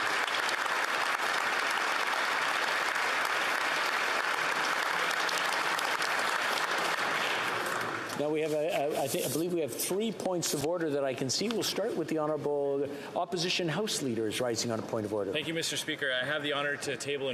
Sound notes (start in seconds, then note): 2.0 applause